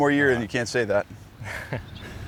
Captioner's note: chuckles